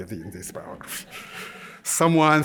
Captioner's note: laughter